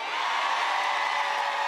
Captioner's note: applause